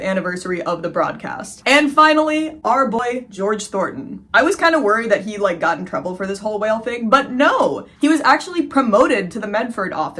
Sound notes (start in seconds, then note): none